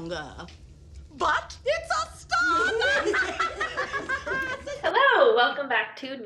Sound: laughs

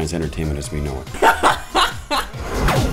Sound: laughing hysterically

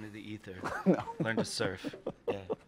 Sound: laughs

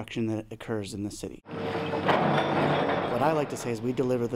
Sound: sound of rocks being scooped

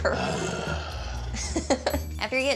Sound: groans

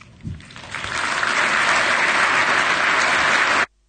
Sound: clapping

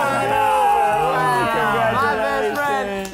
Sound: cheering

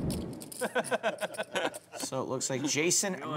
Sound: laughing

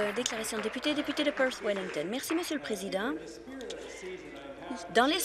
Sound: some Applause

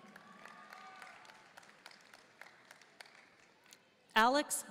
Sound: audience cheering and applauding

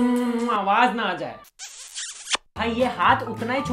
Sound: exhibit a smooching noise

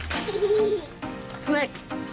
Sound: giggling

